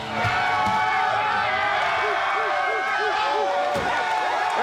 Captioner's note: crowd cheering